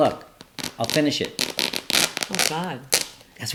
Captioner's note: fabric ripping